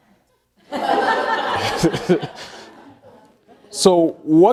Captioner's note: all laughing